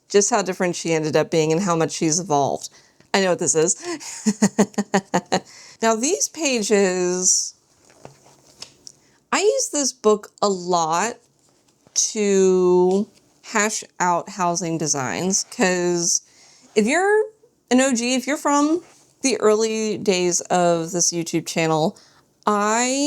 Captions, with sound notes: Just how different she ended up being and how much she's evolved. I know what this is. [laughs] Now these pages... I use this book a lot to hash out housing designs. Because if you're an OG, if you're from the early days of this YouTube channel, I